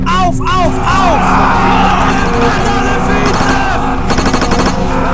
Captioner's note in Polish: okrzyki i odgłosy walki